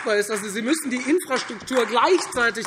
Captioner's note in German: Beifall